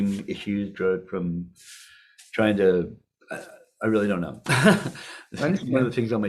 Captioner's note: laughing